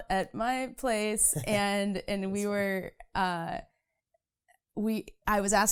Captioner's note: laughing